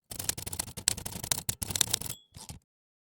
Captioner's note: typing